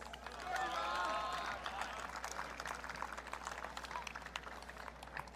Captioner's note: audience cheering